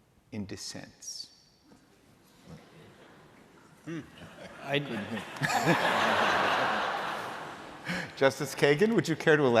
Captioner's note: laughter